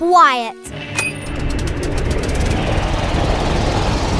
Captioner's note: rattling motor